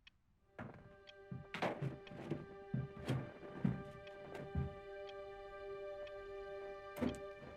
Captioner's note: gentle music; wood creaking